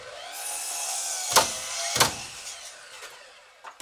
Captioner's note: saw buzzing